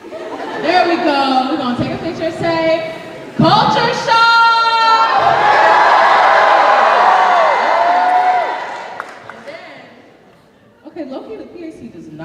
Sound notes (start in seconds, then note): 0.0 laughter; 4.8 cheering; 5.3 crowd